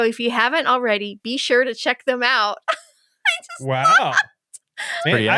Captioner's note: laughing